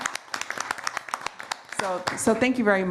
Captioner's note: applause